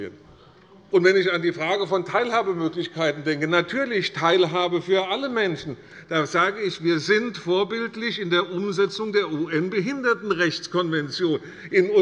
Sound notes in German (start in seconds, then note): none